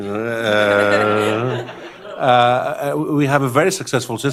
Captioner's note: laughter